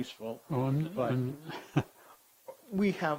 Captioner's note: chuckling